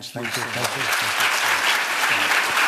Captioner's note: applause